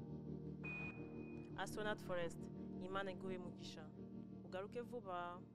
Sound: speaking kinyarwanda

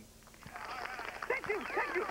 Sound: applause

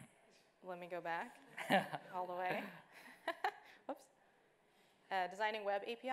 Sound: laughs

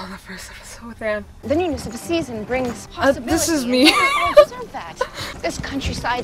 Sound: laughs

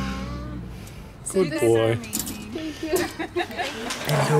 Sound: laughter

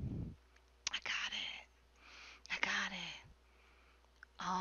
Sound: whispers

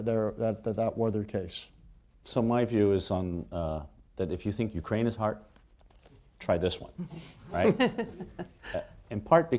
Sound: laughter

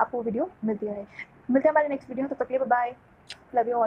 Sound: kisses

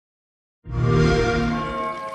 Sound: xbox sound

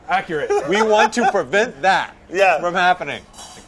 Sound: laughter

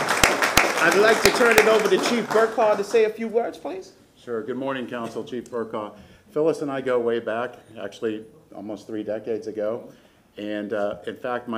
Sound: applause

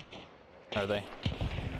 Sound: explosion; gunshot

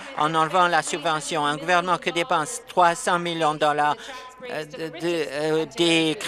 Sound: applause

